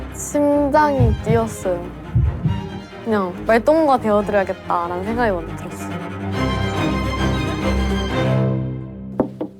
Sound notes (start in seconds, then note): 1.0 thump thump